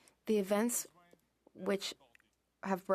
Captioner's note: speaking French